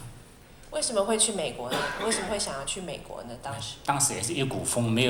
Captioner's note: Mandarin